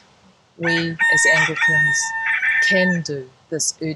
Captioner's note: rooster crowing